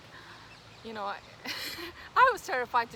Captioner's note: risos